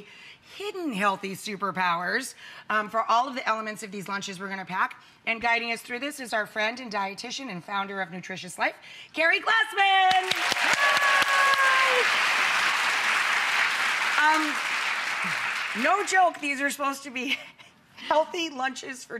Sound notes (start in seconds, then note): 10.0 audience clapping